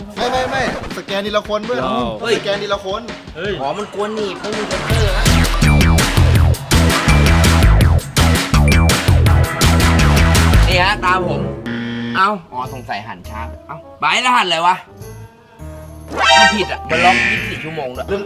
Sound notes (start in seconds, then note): 5.3 upbeat music playing; 11.7 buzzed